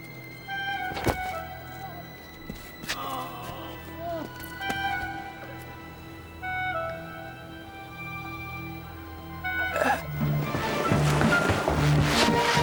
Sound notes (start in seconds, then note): 2.7 groans